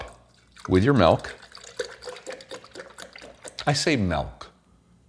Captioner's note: milk splashing